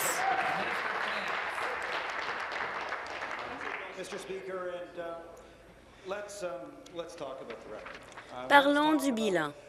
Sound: applause

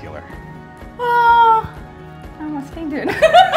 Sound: sighs; laughter

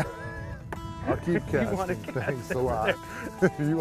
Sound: laughter

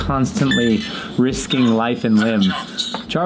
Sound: Robotic voice

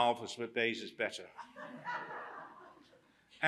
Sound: laughter

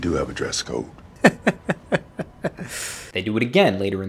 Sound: laughter

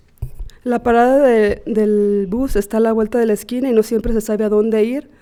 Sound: speaking Spanish

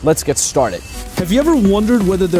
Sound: narrating

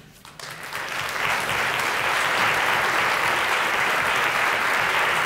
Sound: applause

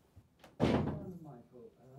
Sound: door slams

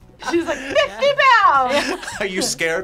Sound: laughs

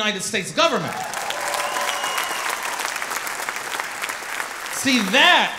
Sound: audience applauding

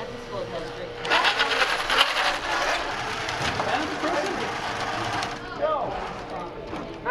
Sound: sound of electric motor running

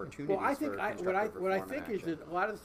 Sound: voice muffled

